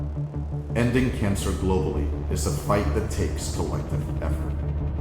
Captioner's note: male Voice